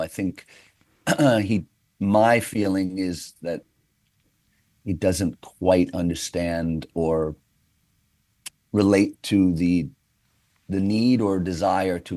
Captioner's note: clears throat